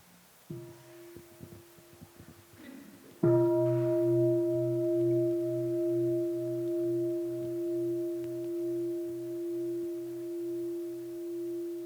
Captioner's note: bell chimes